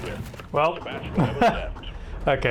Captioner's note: laughter